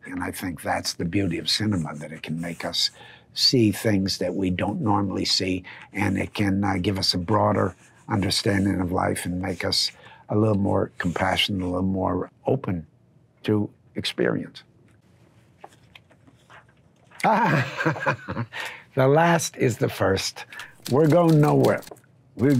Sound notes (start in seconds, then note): 17.2 laughing